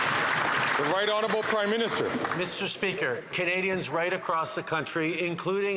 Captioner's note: some Applause